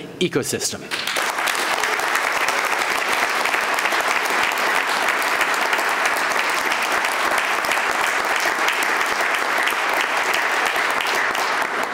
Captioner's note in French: Applaudissements